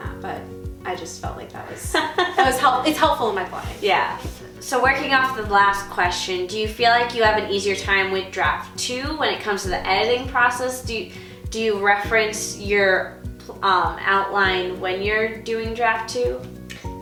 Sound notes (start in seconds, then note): 1.9 laughing